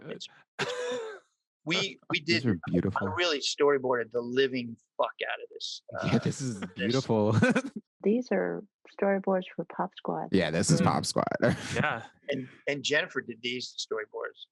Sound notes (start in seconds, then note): 5.6 laughs